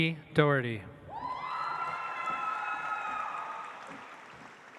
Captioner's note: audience applauds